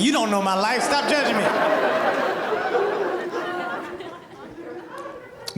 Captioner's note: audience laughing